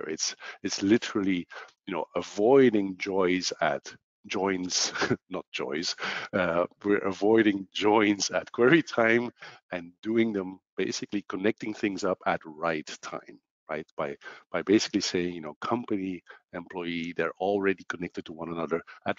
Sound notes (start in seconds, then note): 6.3 laughs